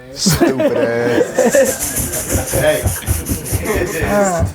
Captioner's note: laughing